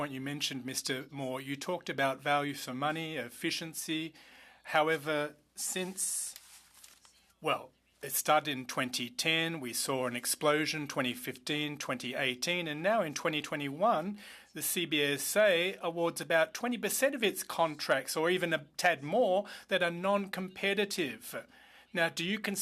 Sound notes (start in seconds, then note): 4.9 speaking French